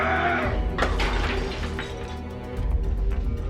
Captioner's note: bottle breaking; dramatic music